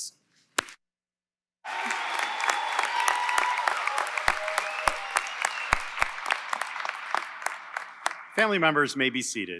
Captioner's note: applause & Cheering